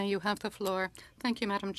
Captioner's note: speaking in French